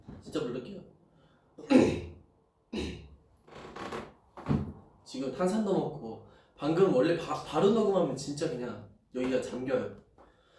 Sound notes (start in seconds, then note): 2.7 clears throat